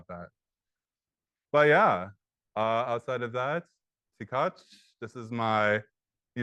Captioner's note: speaks in native language